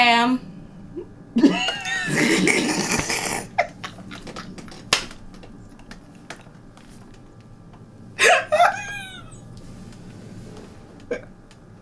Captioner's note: laugh